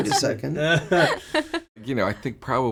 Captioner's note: laughing